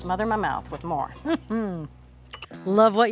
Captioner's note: laughs